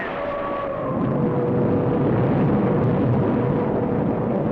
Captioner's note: thunder rumbling